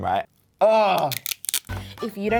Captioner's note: groans